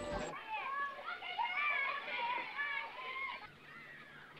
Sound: children shouting

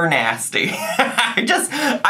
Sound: laughing

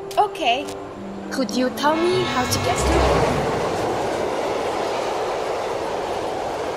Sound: train noise interrupts her

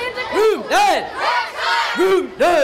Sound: kids yelling

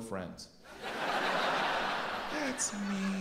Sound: audience laughs

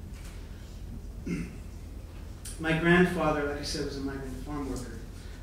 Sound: clears throat

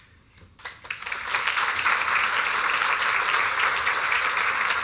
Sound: applause

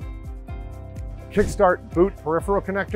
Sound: screen whooshing

